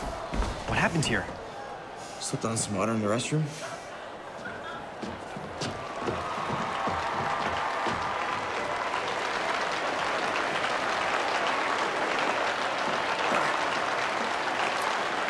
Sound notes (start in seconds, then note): 4.8 crowd cheering and applauding